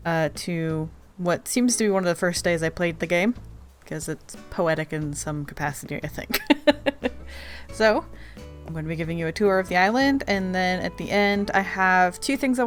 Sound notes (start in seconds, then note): 6.4 laughs